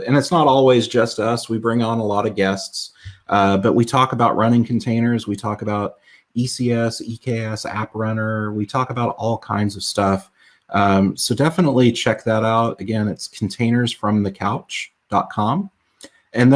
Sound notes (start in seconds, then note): none